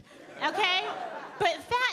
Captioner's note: audience laughing